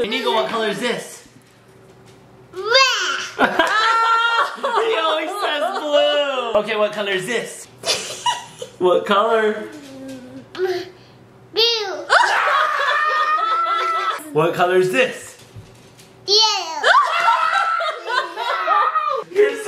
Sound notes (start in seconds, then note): 3.3 laughing; 12.1 screams; 16.8 laughing